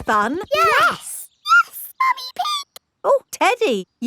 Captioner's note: in high-pitched voice